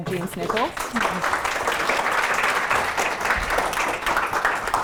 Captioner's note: audience applauding